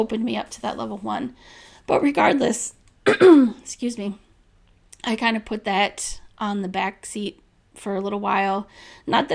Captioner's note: clears throat